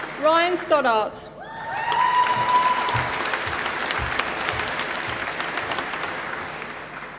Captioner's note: applause